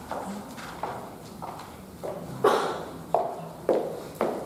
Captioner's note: heels clicking